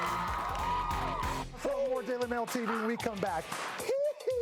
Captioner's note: cheers and applause